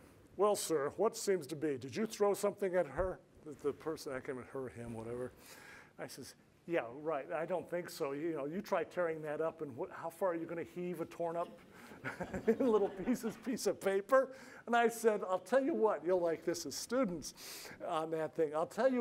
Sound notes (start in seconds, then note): 12.0 laughs